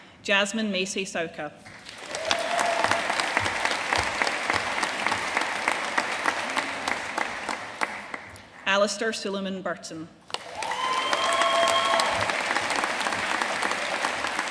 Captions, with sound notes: Jazmin Macey Sauca. (AUDIENCE CHEERING AND APPLAUDING) Alistair Suliman-Burton. (AUDIENCE CHEERING AND APPLAUDING)